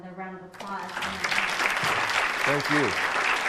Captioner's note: audience applauds